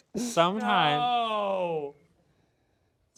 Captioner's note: voiceover